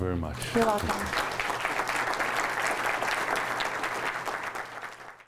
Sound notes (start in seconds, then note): 2.0 audience applause